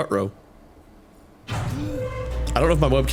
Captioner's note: screeching Metal as the Door Opens